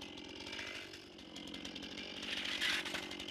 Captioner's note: chainsaw noises